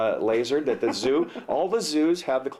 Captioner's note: laughs